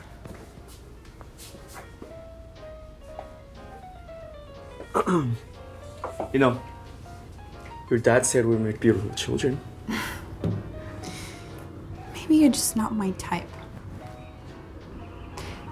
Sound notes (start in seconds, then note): 4.9 clears throat